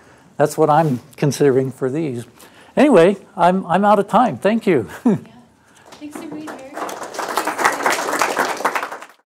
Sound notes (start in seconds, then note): 4.7 laugh; 5.8 applause